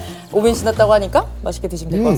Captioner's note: slurp